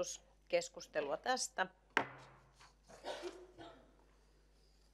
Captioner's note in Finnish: Nuijan kopautus